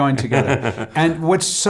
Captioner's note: laughs